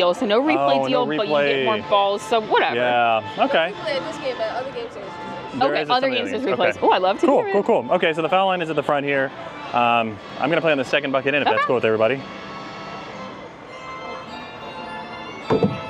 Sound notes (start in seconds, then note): 4.2 attendant chattering; 13.5 circus music; 15.5 ball thudding